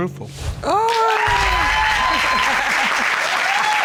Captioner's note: cheering